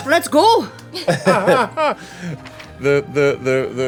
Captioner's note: laughing